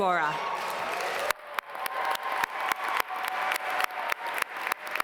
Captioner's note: audience cheer and applaud